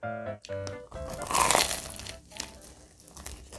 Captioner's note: crunchy